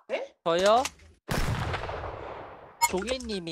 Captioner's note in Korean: 장전소리; 암살자 총성